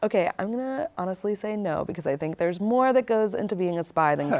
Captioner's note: chuckling